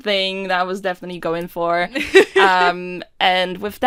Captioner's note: Rover laughs